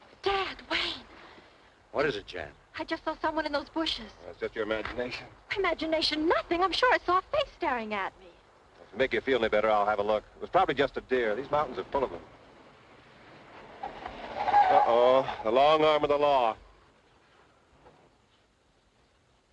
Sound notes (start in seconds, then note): 12.6 tires squealing; 13.6 engine revs